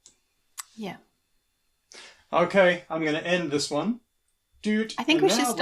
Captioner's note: beeps